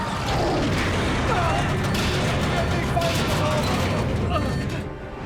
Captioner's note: moan